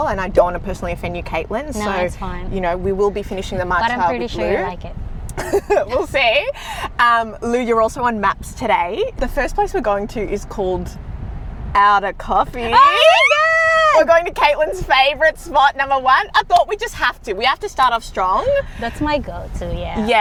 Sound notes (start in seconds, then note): 5.3 laughs